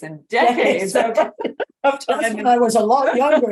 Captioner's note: both laughing